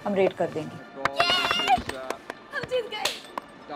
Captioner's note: Claps